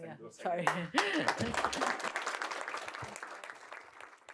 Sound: applause

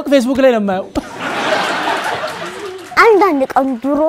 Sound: laughter

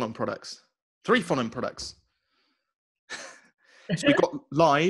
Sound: chuckles

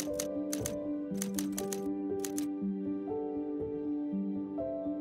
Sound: typewriter clacks

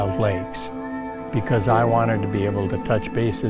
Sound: loons calling

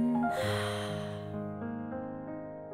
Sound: exhaling; soft music

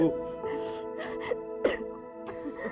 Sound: coughing

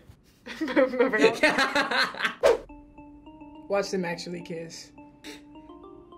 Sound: chuckles; laughs

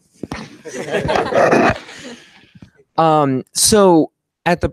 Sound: laughter

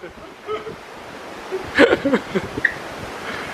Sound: laughing

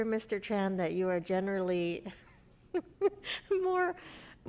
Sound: laughs

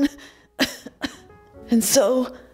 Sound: coughs

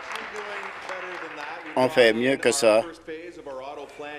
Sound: some Applause

